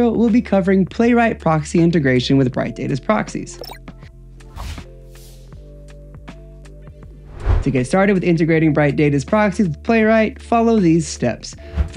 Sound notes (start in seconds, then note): 3.6 graphics chimes; 4.5 graphics swooshing